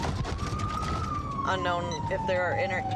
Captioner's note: sirens